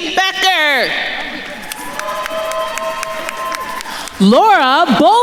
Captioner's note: attendees cheering and applauding